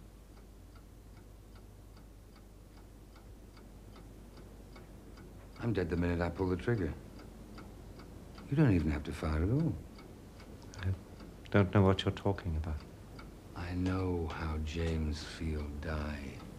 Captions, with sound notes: (clock ticking) I'm dead the minute I pull the trigger. You don't even have to fire at all. - I don't know what you're talking about. - I know how James Field died.